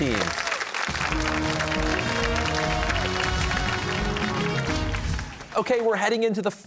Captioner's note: cheers and applause